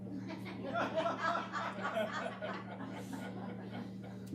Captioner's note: crowd laughter